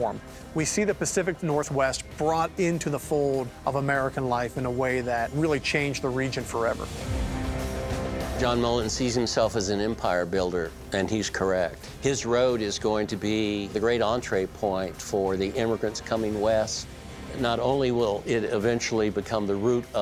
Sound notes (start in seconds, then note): none